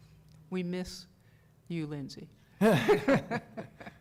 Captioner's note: laughter